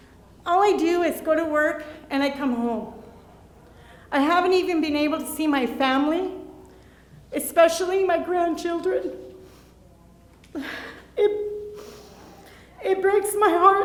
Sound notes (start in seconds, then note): 10.5 sobbing